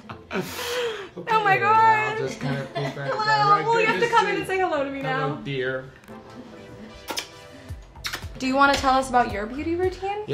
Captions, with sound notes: - Oh my god. - Okay, I'll just kinda be back right good to see you. - Hello, well, you have to come in and say hello to me now. - Hello dear. [kissing sound] - Do you wanna tell us about your beauty routine?